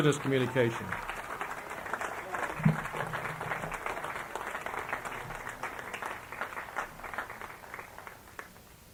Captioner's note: applause